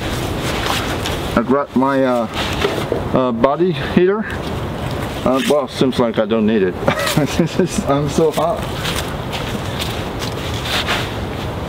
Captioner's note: laughing